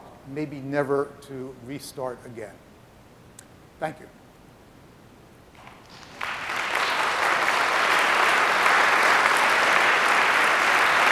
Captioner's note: applause